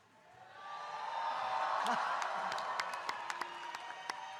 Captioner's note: audience cheering